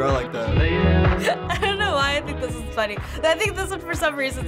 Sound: laughing

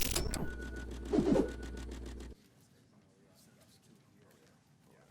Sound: swooshing; people chattering faintly

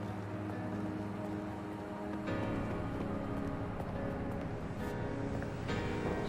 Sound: footsteps

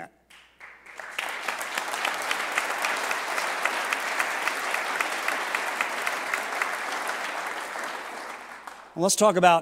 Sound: applause

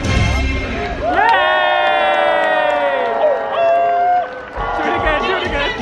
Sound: upbeat music continues; guests cheer

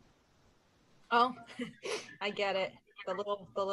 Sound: chuckles

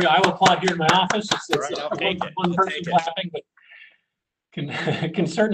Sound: clapping

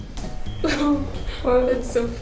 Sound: laughs

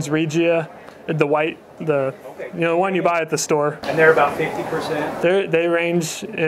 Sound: crowd

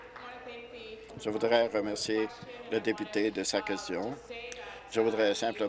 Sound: applause

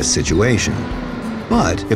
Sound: cold wind blows

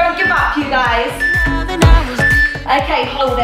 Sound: phone beeping

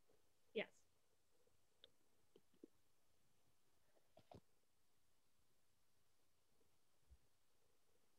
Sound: silence

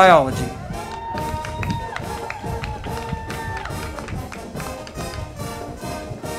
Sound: band music; crowd clapping and cheering

